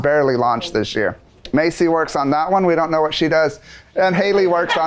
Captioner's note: laughs